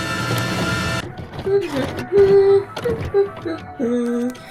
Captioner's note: VHS Tape Ejects, *someone* humming